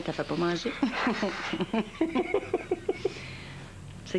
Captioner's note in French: Rires